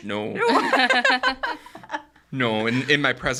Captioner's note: laughing